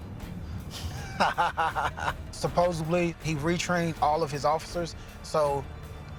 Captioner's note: laughs